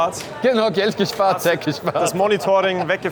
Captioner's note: laughter